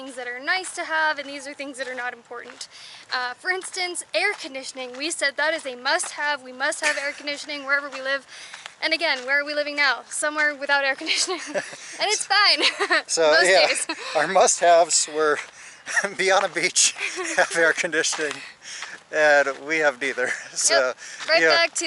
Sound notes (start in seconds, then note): 11.0 laughter